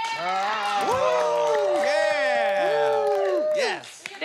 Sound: cheering, whooping

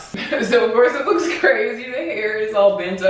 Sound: chuckles

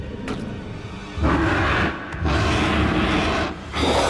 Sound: growling; roaring

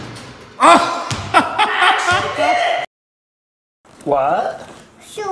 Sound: laughs

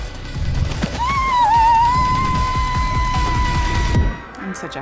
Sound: screams

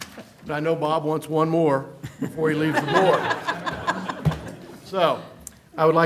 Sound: laughter

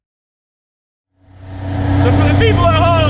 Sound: engine revving

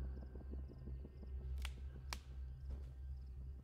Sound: twigs snapping

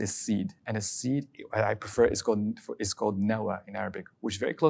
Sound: speaking Arabic

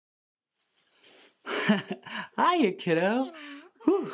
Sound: tight laugh

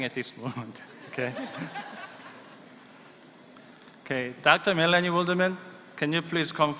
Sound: laughter

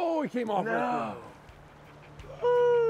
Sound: groaning

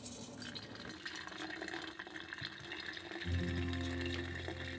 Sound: tea leaves rustling; tea gurgling

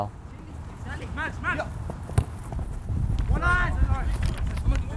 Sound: players talking and yelling

